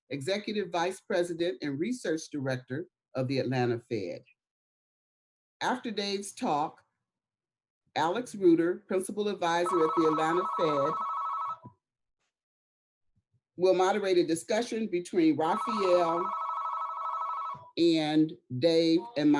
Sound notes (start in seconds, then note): 9.6 phone chimes